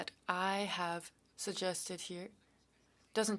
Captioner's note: speaking French